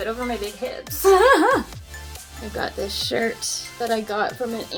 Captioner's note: laughs